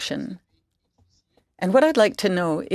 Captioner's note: speaking in French